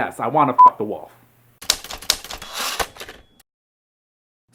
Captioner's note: typing